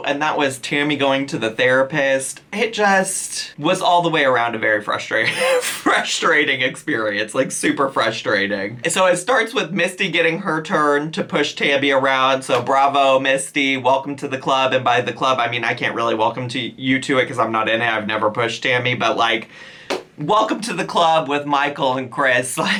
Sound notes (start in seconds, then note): 5.2 chuckles